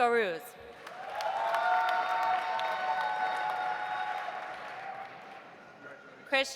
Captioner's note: audience applauding; audience cheering